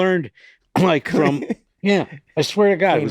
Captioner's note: laughing